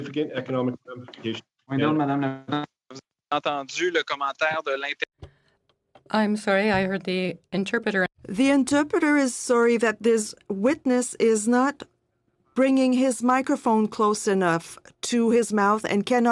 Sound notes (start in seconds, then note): 8.5 speaking French